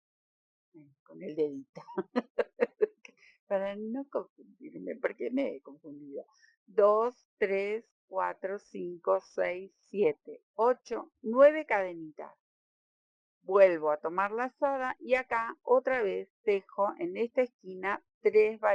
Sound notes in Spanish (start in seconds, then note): 1.8 risas